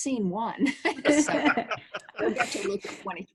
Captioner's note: laughs